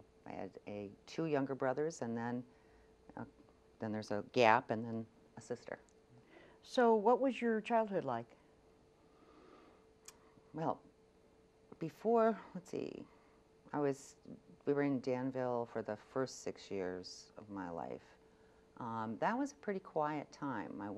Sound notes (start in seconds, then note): none